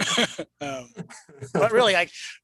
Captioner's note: laughs